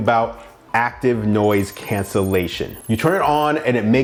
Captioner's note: electronic trilling